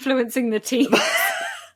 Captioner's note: laughs